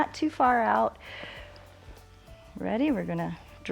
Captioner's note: inhales